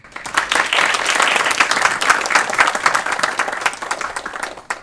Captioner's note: audience applauds